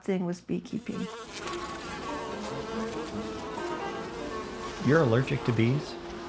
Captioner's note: bees buzzing